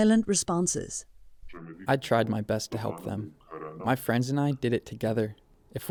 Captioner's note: through translator